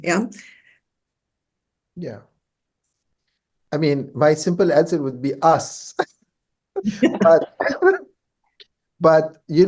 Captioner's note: laughs